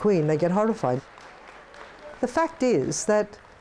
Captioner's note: crowd applauding